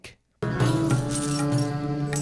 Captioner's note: coins jingling